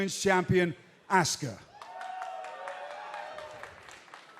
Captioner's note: cheers & applause